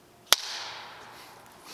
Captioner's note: slate clacking